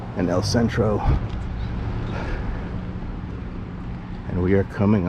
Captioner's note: street noise